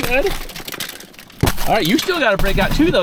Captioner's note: glass shattering